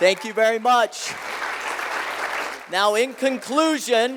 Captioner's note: applause